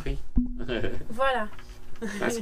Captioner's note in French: Rires